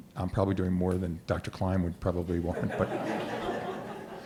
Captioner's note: laughter